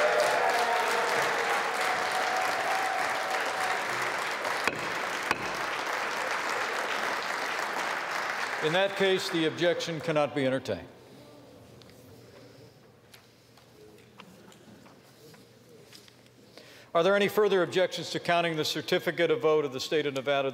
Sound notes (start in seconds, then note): 5.6 cheers and applause